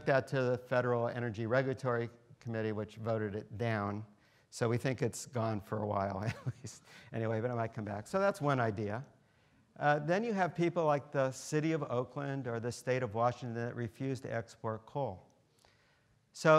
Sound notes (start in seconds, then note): 6.6 laughs